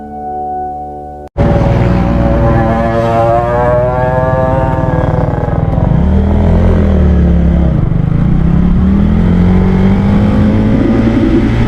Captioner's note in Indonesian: suara sepeda motor